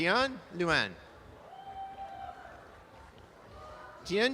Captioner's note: audience applause